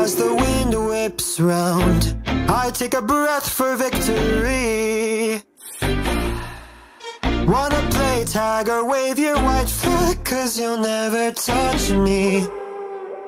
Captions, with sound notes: As the wind whips 'round I take a breath for victory *Breaths in and out* Wanna play tag or wave your white flag Cuz you'll never touch me